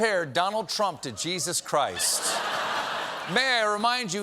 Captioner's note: laughter